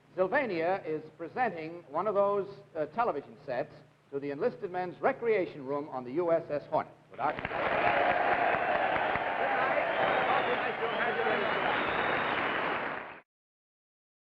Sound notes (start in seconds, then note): 7.2 crowd cheering